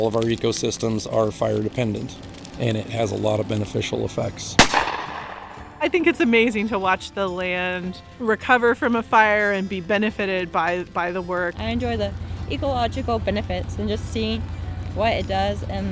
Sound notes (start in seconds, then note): 4.6 flare gun fires